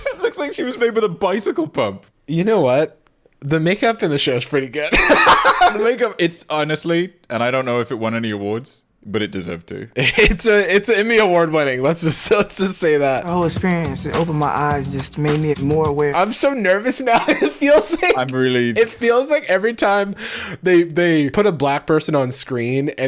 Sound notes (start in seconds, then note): 4.9 laughing; 17.0 laughing